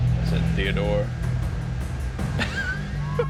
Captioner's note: laughs